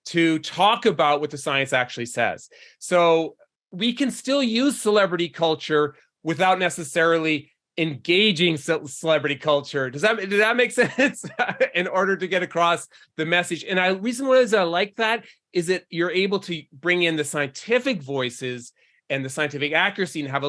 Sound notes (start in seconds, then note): 10.9 laughs